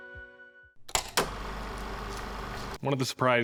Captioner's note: film reel flapping